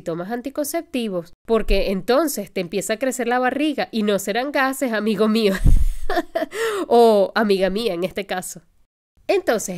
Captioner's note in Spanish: risas